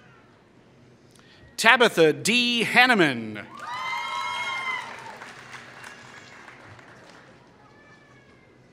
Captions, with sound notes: Tabitha D. Haniman [Applause]